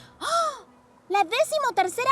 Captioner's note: gasps